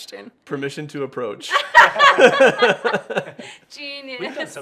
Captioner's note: laughing